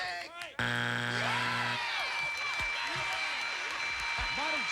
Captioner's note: cheers and applause